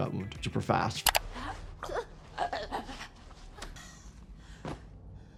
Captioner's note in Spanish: jadeo infectado